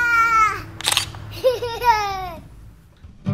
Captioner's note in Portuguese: risos